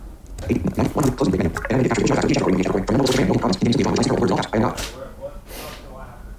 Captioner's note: extremely fast speaking